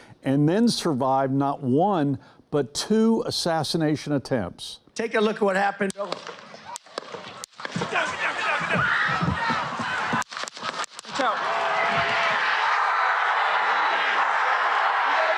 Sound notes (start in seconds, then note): 6.3 gun shot fires; 10.6 audience screams; 11.9 audience cheering loudly